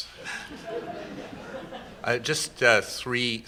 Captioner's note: laughter